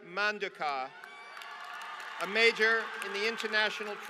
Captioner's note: applause